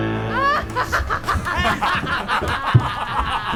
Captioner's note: laughing